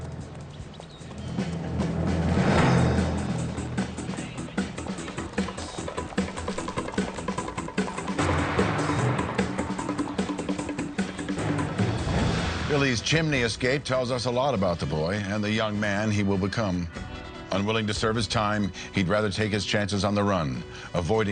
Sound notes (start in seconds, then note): 0.0 birds chirping; 5.6 upbeat dramatic music continues